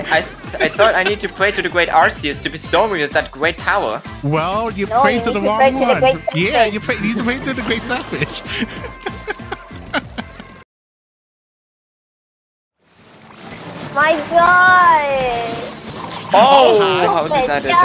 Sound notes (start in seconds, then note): 8.6 chuckles; 9.8 laughing